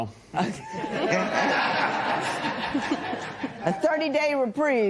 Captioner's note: laughter